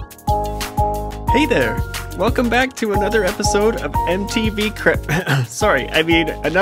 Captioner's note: cough